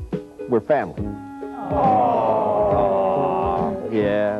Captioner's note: group cooing